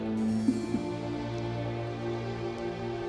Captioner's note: sobbing; soft music